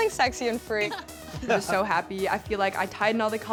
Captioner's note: laughs